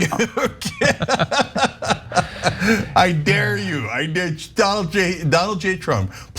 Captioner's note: laugh